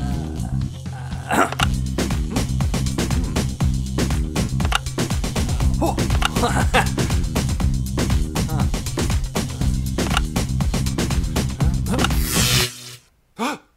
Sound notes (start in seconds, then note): 0.0 grunts, buttons click